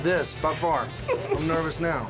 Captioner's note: laughter